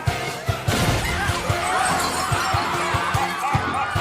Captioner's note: screams; mwahahaha